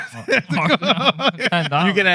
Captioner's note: laughing